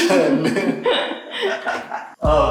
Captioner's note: laughs